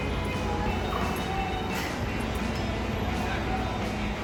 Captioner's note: none